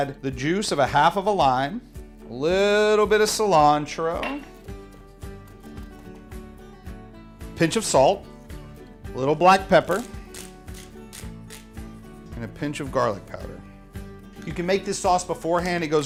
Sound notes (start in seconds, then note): 4.8 upbeat music; 10.3 grinder swishing